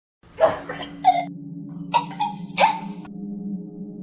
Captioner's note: Michelle choking and gasping